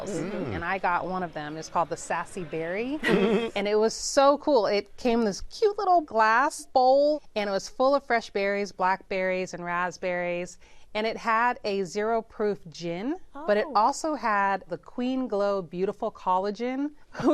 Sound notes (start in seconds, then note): 3.0 chuckles